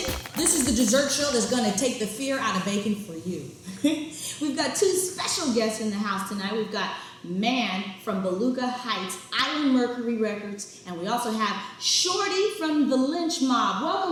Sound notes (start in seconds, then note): 3.9 laughs